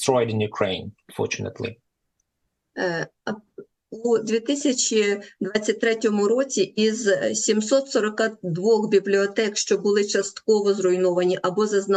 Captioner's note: foreign language